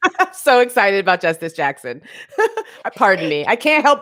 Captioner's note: chuckles; chuckles